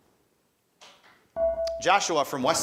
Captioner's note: buzzer dinging